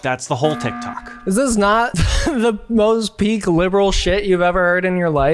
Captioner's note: chuckles